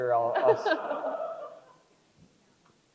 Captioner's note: crowd laughs